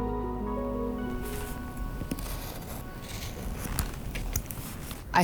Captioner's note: razor cutting